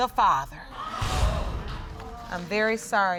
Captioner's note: audience exclaiming